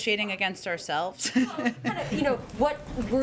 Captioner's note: laughs